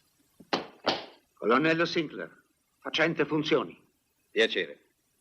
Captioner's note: stamps floor